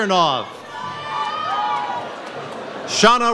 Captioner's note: audience cheers